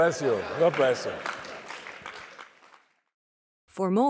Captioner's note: applause